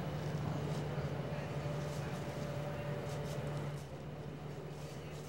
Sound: people chattering

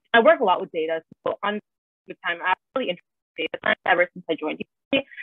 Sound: distorted audio

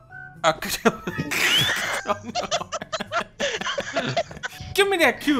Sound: laughter

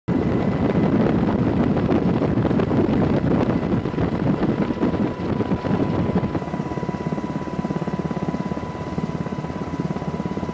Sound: helicopter Noises

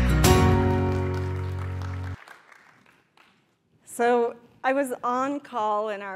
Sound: applause

